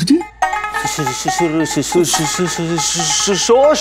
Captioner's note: Stammering